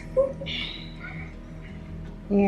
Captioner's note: laughing